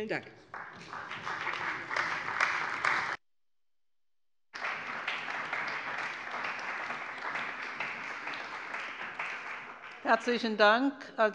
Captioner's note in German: Beifall bei der CDU und dem BÜNDNIS 90/DIE GRÜNEN